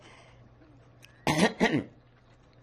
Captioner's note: coughing